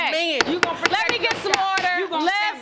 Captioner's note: gavel pounding